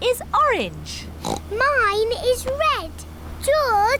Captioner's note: oinks